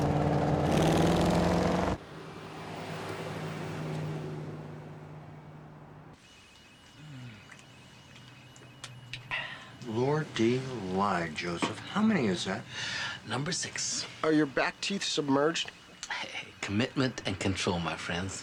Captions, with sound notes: - (sighs) - Lordy-lie, Joseph. How many is that? - Number six. - Are your back teeth submerged? - Commitment and control, my friends.